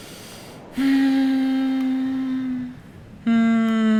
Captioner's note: sigh